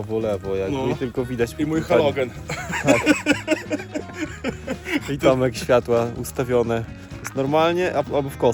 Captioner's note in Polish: śmiech